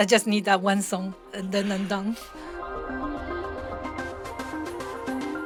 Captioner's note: voiceover